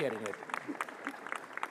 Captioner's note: applause